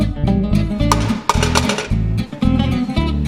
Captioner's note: cracking egg